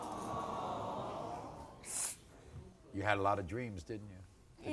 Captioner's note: audience awws